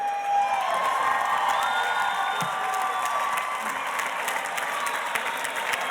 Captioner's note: audience cheers and applauds